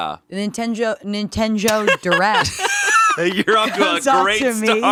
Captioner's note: laughing